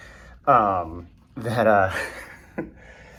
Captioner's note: laughing in trama